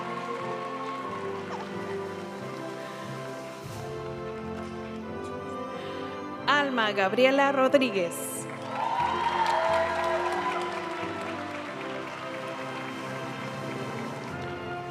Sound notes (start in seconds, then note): 0.0 audience cheering and applauding; 0.3 graduation music; 8.4 audience cheering and applauding; 11.8 graduation music